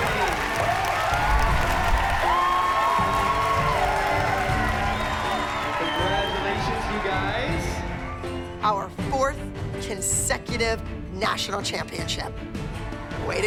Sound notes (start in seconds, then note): 1.7 cheering